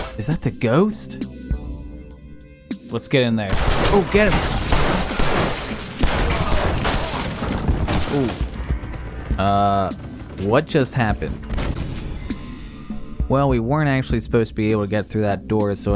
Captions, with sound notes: is that the ghost? let's get in there! Okay, (multiple gunshots) oof uuhh what just happened? DEAD well, we weren't actually supposed to be able to get through that door,